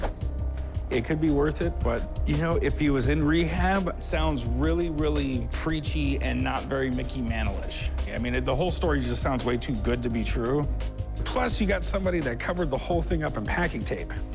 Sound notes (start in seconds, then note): none